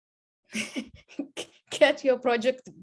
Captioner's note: laughs